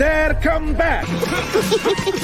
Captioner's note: grunting